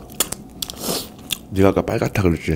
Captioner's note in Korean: 들숨